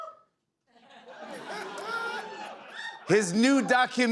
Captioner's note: laughter